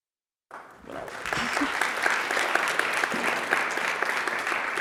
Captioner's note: audience claps